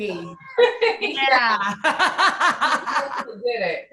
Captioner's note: laughter